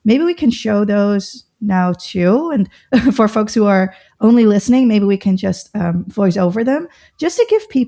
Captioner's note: laughter